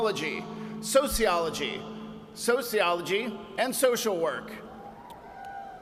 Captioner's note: cheers and applause